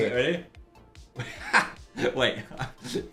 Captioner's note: laughs